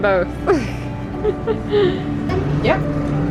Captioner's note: laughing